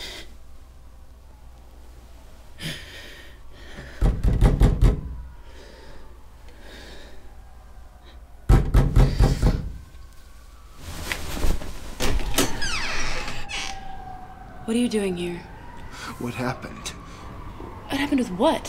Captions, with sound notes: [ Banging on door ] [ Banging continues ] What are you doing here? -What happened? -What happened with what?